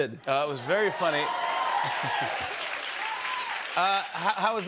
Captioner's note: cheers and applause